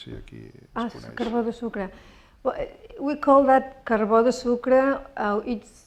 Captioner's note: speaking spanish